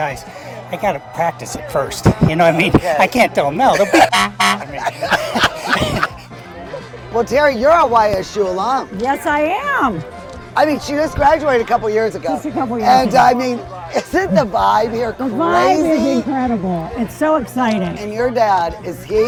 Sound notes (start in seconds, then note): 3.7 both laughing; 3.9 horn honking